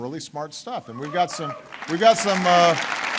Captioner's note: applause